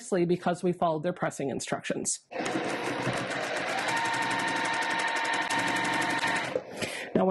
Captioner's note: sewing Machine Noises